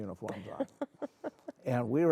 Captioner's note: laughing